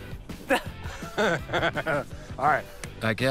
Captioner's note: both laugh